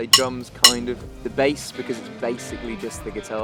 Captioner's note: sticks clicking